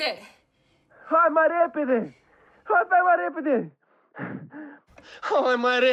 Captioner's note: speaking in foreign language